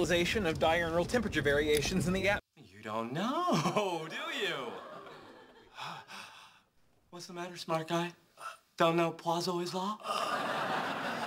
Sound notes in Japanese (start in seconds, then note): 5.7 あえぎ